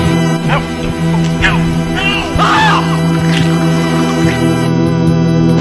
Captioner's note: screams; intense synthesizer music